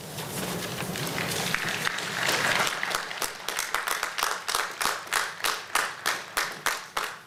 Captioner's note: applause